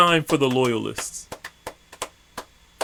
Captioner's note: slow clapping